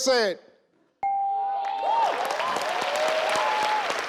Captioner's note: bell chimes